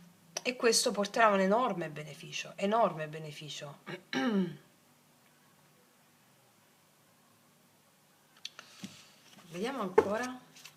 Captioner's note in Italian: schiarire la voce